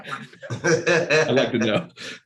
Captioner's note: chuckles